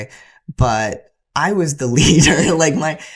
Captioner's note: laughter